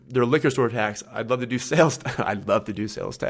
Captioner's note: laughs